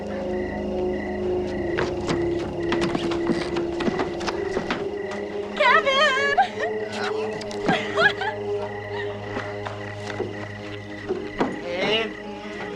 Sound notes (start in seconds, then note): 5.5 giggling